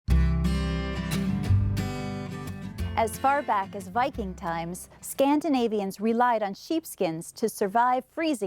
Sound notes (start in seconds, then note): 0.0 gentle acoustic guitar music; 3.1 voiceover